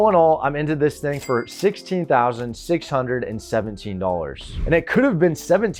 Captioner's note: cash register dings